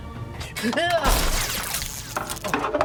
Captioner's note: electrical pops